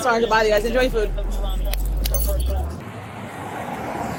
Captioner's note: radio chatter